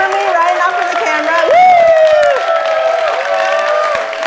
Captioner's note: applause